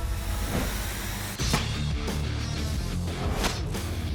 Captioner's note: chopping